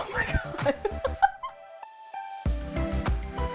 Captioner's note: laughing; upbeat music